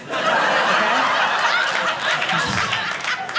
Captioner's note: audience laughing